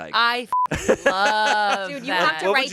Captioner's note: beep